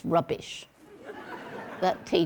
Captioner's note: audience laughing